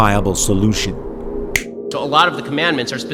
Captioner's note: snap